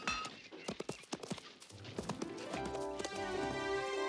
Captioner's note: mallet clanging; hooves clopping; pleasant music